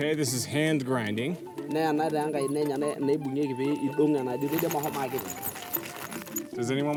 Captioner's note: speaking in native language